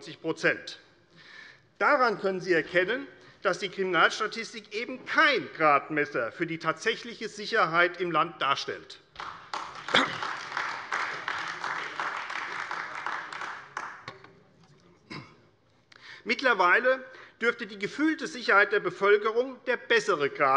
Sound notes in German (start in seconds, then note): 9.1 Beifall AfD